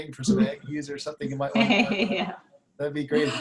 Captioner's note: laughs